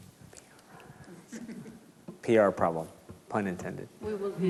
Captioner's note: laughs